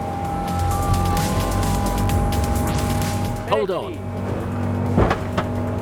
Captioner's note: intense music; boat knocking